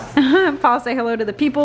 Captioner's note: laughs